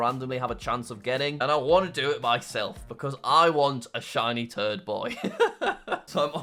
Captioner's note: laughs